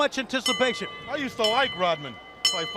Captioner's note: bell ringing